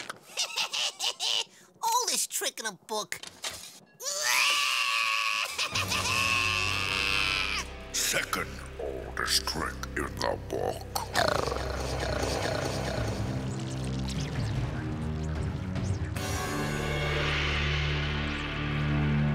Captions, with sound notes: [laughing] Oldest trick in the book. [screaming] Second oldest trick in the book.